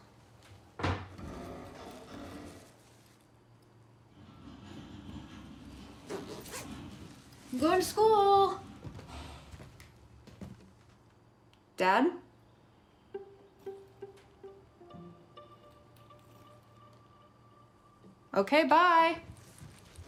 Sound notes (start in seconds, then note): 0.7 sound of door closing